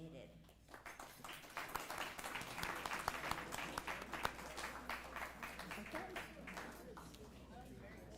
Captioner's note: applause